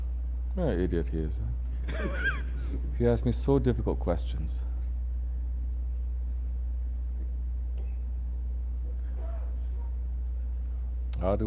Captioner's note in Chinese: 笑了